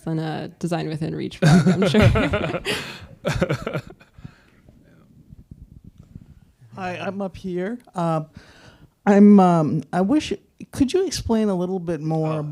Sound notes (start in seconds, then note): 1.4 laughing